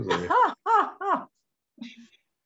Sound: laughs

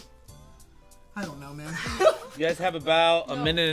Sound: guffaws

